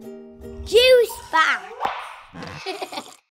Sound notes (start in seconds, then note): 1.7 logo pops; 2.3 child laughs